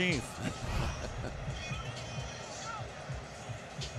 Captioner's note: laughs